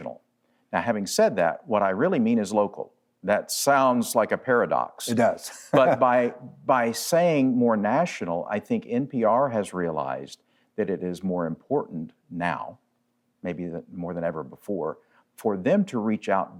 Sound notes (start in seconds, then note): 5.1 laughs